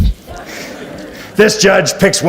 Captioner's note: audience laughs